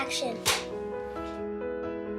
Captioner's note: clapboard clapping; soft piano music